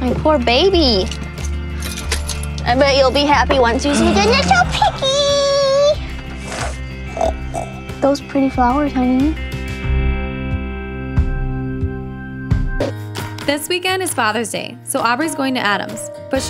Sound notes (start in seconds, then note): 6.3 snorts